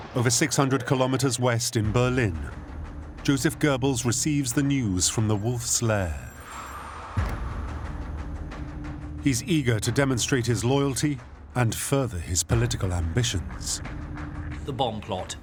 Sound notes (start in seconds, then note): 6.1 phone rings